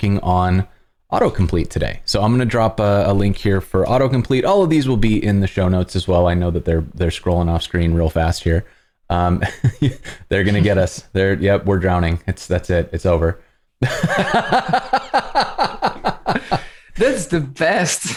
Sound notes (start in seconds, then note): 13.8 laughter